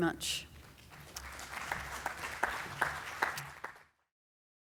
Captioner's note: audience applauds